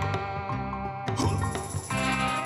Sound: none

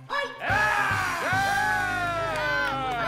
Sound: screaming

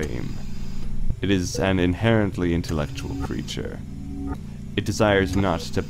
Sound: mechanical ambiance

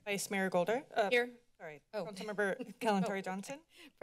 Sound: chuckles

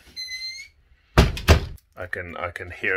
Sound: door squeaks; door closes

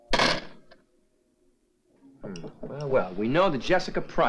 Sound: phone slamming

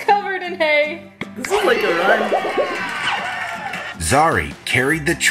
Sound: Duolingo cheering

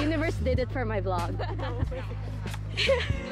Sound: laughs

